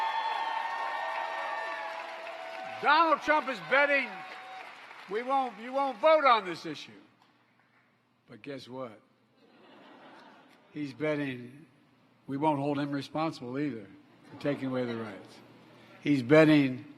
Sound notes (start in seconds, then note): 6.1 applause